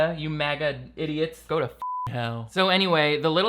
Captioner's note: beeps